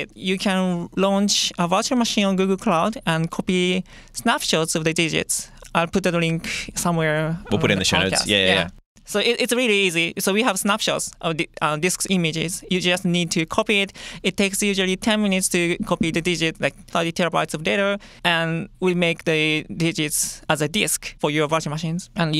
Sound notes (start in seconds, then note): none